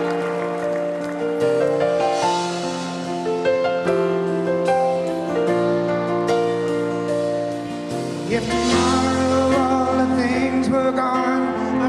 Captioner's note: cheers and applause